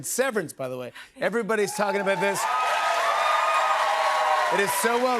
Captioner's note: cheers and applause